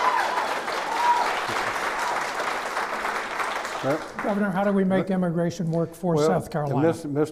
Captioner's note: clapping